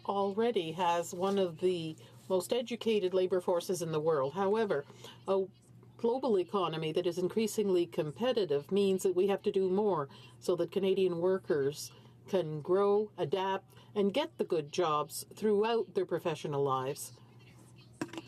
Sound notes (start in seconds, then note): 2.6 speaking french